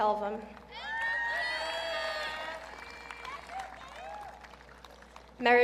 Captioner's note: audience cheering